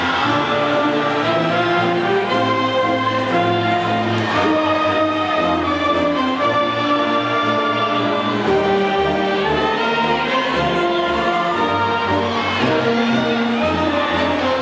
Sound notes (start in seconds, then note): 4.5 audience cheers; 9.7 audience faintly shouting